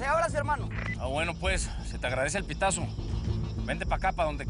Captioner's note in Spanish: Bip